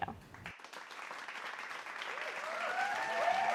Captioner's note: applause